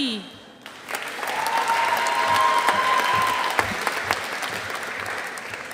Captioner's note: audience applauding